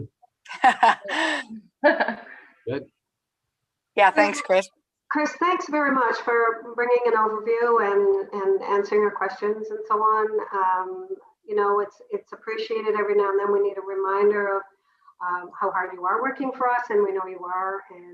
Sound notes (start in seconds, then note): 0.5 laughs